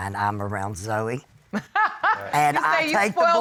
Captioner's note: laughs